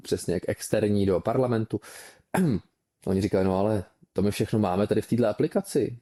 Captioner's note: clears throat